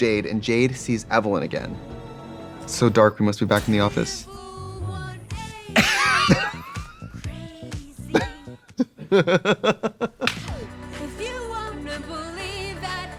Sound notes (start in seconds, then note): 4.2 Katya wheezes; 6.1 both laughing